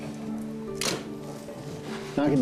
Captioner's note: camera clicks